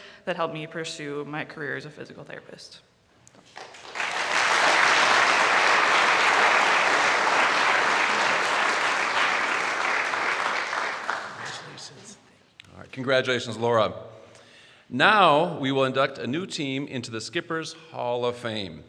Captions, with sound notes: that helped me pursue my career as a physical therapist. (audience applauds) Congratulations, Laura. Now we will induct a new team into the Skippers Hall of Fame.